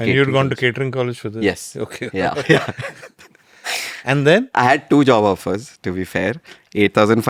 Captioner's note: laughs